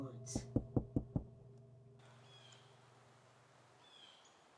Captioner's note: knocking on door